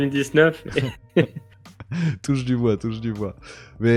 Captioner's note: laughs